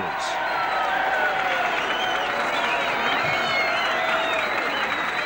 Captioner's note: cheering and whistling